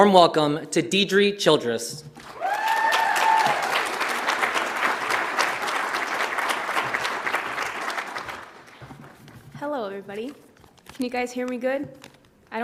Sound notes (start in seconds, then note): 2.2 audience applauds; 2.2 audience cheers